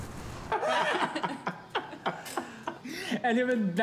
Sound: laughing

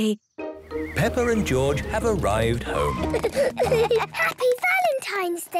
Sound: children giggling

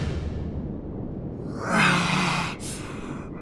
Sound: CODY groans in pain

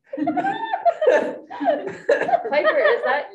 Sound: students giggling hysterically

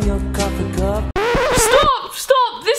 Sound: record scratches

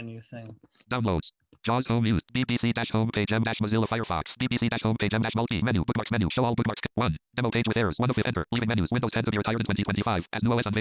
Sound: screen reader reads fast

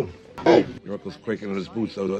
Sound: demonic tone

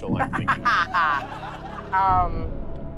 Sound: laughter

